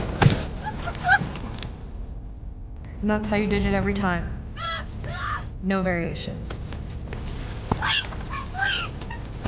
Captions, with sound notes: (whimpering) And that’s how you did it every time? (yelling) No variations? Please, please!